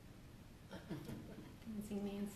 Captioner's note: laughter